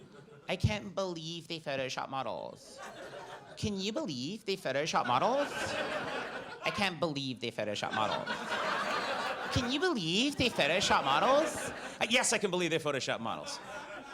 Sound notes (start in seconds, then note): 4.9 audience laughs